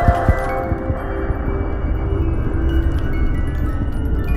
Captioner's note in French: battements de coeur